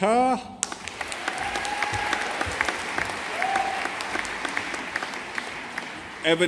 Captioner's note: audience applauding